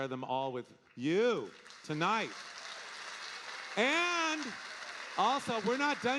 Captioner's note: audience applauding